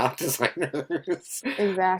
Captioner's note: laughs